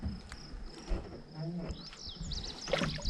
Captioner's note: creaking; fish splashing